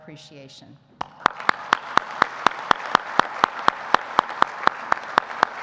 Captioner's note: audience applauding